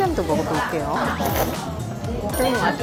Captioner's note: slurp